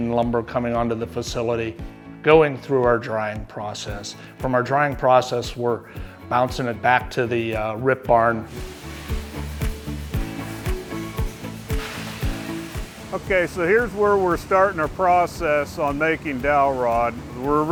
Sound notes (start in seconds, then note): 8.5 light music; 8.5 machinery whirring